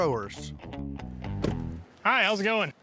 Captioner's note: door closing